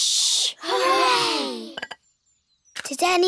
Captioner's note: quietly